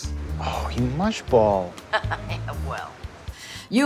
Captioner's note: Judith laughs